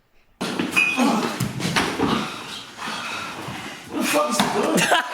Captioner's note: grunting